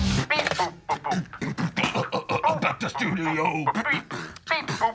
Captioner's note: beatboxes poorly